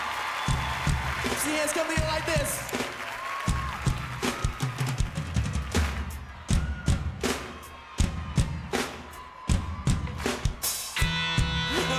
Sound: cheering

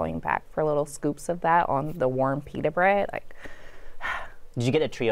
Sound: breathes deeply

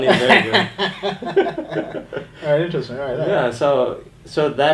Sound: laughing

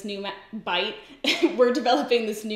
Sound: giggles

